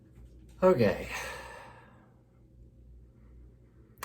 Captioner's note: sighs